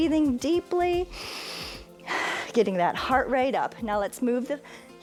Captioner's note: inhales and exhales